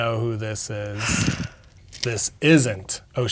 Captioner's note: exhales